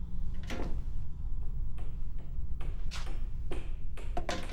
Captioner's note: hammering